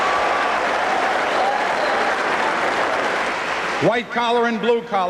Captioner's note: applause